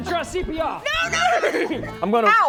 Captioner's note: neighs